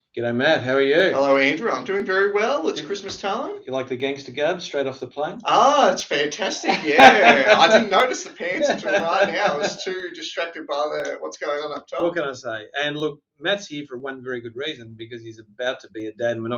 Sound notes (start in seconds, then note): 6.5 laughing